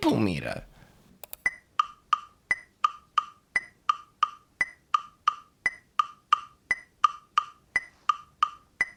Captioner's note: metronome beating in the 3/4 time signature